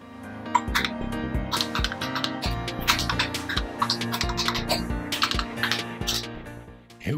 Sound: keyboard clicks

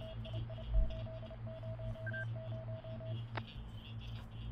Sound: electronic beeping

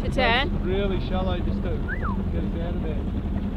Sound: whistles

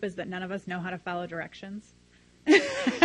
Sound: laughs loudly

